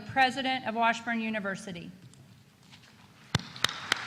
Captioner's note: applause